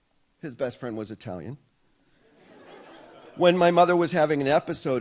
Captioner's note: audience laughs